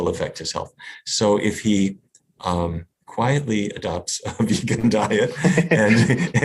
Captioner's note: laughs